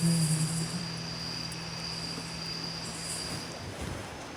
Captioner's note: crickets chirping